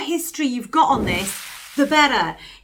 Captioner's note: whooshing sound